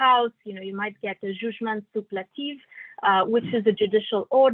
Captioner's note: non-english speech